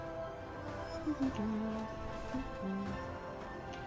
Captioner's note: humming